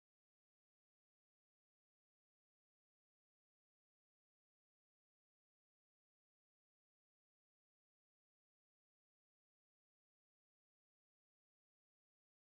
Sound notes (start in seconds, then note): none